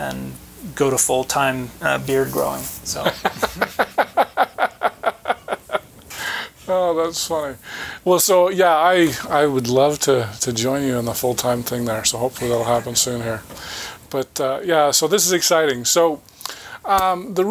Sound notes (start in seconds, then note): 3.0 chuckling